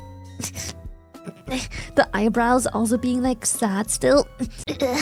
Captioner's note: laughs